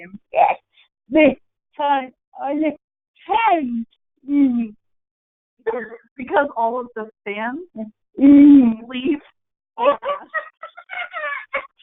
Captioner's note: everyone laughing